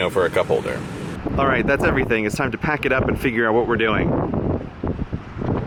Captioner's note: wind blowing